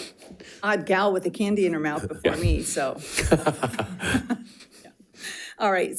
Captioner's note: laughs